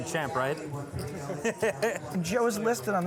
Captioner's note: laughs